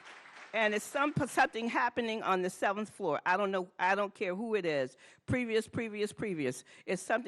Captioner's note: applause